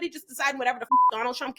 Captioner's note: beep